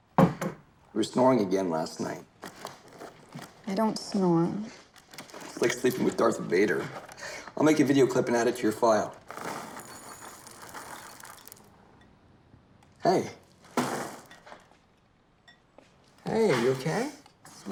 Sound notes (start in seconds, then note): 9.3 cereal pours